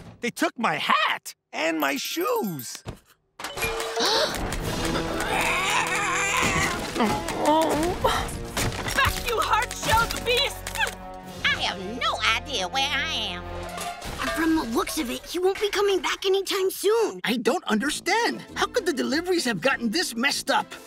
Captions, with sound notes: They took my hat, and my shoes. [gasping] [squawking] [whimpering] Back you hard shelled beasts! I have no idea where I am. And from the looks of it, he won't be coming back anytime soon. I don't understand. How could the deliveries have gotten this messed up?